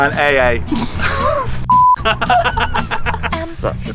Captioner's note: laughing